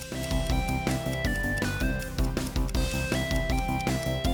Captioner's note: timer starts ticking